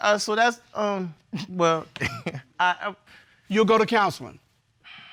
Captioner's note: chuckles